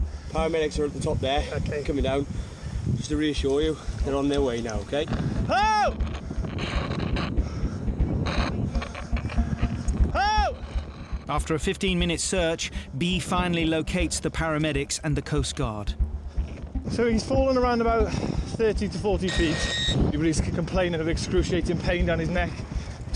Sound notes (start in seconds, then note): 8.2 walkie-talkie cracking